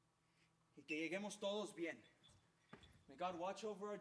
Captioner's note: speaking Spanish